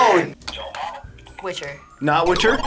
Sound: buzzer

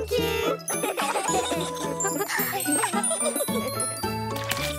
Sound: laughing; upbeat music

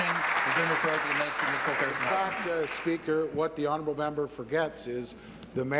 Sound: applause

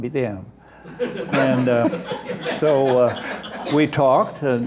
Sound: laughter

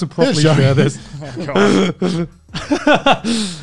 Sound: laughs

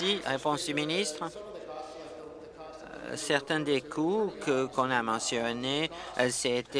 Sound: applause

